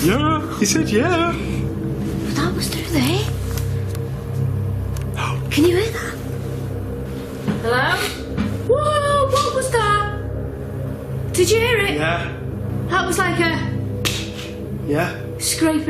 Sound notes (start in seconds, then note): 5.5 gasping; 14.2 scraping